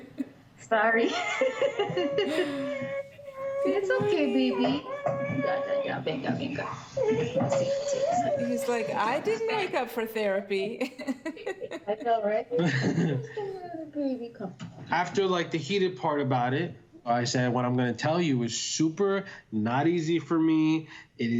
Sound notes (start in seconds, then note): 1.0 laughter; 2.2 baby fussing